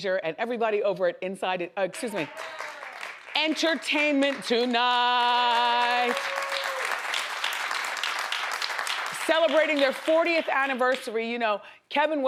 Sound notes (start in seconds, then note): 2.3 audience applauds; 5.3 audience applauds